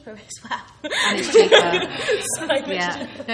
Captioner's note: laughing